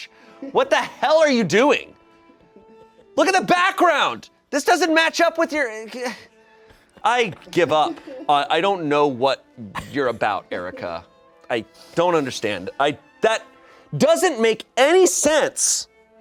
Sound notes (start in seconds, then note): 8.0 crew laughs